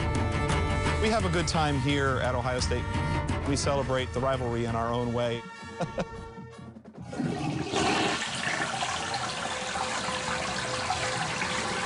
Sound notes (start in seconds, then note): 7.0 toilet flushes